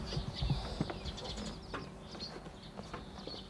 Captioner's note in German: Vogelzwitschern